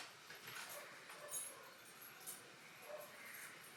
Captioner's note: keys jingling